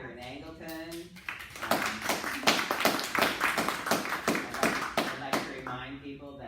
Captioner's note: clapping